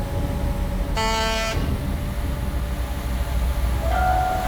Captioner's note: horn honks